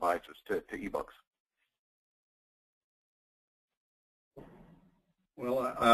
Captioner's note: silence